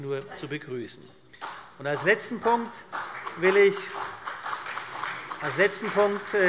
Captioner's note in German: Beifall CDU